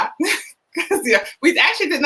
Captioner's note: laughing